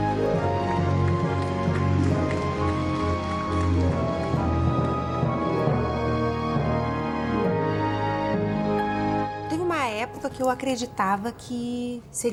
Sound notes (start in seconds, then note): 1.0 sound of applause in the distance